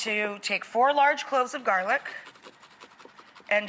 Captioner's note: quick grating